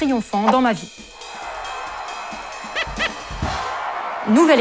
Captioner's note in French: Applaudissements